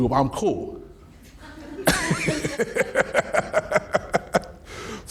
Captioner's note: laughing